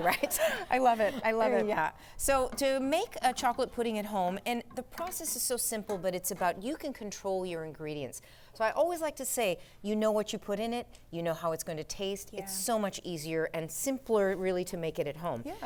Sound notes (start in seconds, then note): 2.6 speaking foreign language